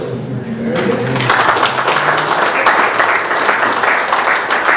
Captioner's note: applause